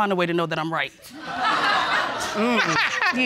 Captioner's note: laughter